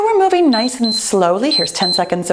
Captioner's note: timer beeps